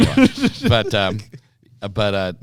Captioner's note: laughter